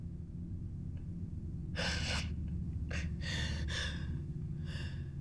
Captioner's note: sobbing